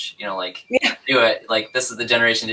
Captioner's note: laughs